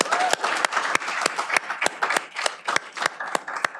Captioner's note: cheering